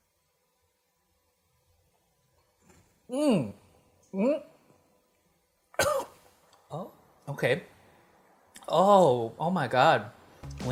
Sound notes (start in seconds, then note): 3.1 groans; 5.7 coughs